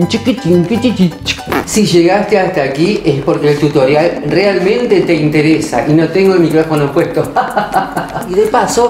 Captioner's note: laughter